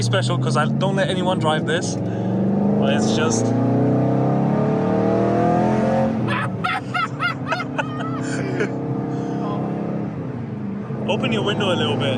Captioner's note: laughing